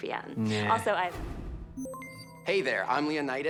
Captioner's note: system beeps